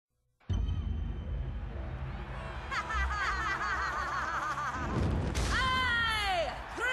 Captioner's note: laughter